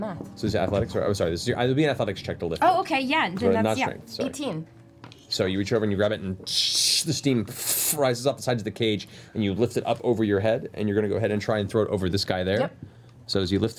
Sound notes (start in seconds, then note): none